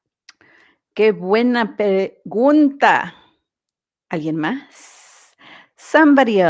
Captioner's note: Spanish